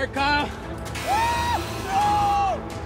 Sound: screams

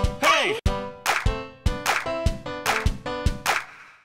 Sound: upbeat piano music; rhythmic clapping

